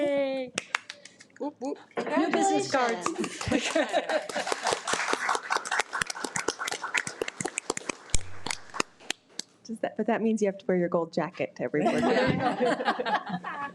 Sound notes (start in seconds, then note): 2.7 audience clapping